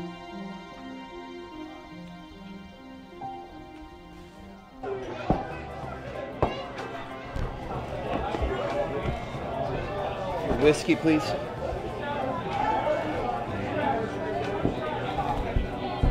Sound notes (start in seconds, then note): 4.7 bar music; 7.1 thud